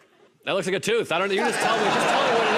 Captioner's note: laughter